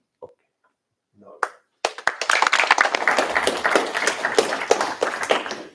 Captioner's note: applause